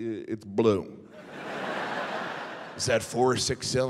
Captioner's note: audience laughing